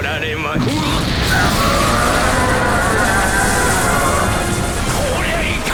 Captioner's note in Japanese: スルガトのうなり声